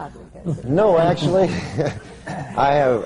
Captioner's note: laughter